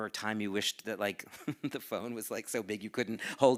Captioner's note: chuckles